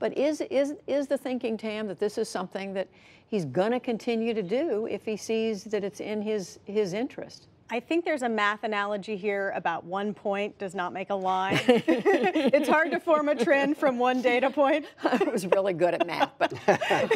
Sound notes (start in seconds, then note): 11.5 laughter